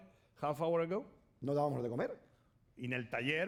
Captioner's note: speaking spanish